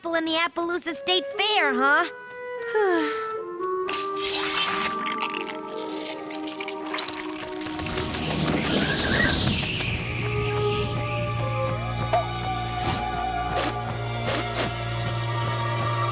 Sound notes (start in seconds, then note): 2.7 sigh; 7.5 whistling wind; 14.2 sniffing